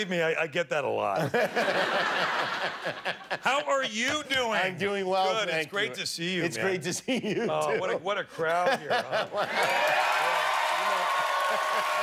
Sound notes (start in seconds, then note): 1.2 laughter; 9.4 cheers and applause